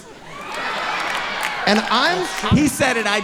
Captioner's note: audience cheering